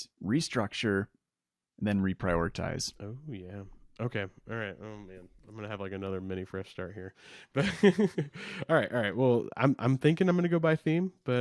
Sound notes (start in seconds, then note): 7.5 laughs